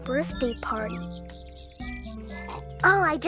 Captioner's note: sip